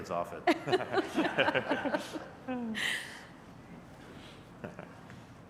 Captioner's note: laughter